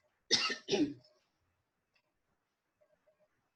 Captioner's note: coughs